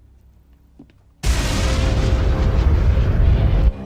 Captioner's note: rocket blast